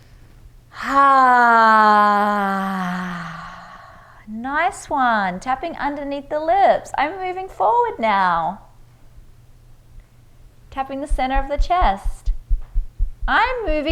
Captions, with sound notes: (loud sighing) Nice one. Tapping under the lips. I'm moving forward now. Tapping the center of the chest.